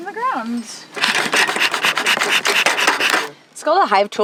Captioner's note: bee smoker hissing and clanking